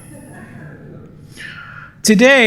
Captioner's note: laughter